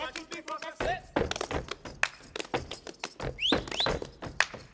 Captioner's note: feet stomping and hands clapping; whistling